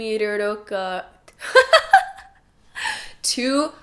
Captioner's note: laughs